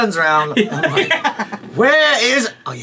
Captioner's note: laughing